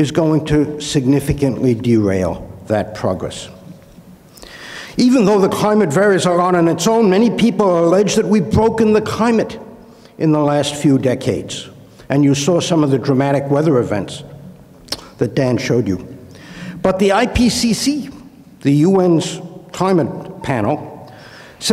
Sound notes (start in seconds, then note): 4.3 inhales; 14.8 clicks tongue